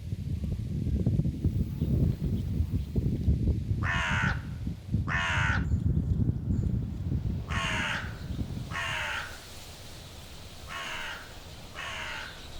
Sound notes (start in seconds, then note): 1.6 birds chirping; 5.1 crow cawing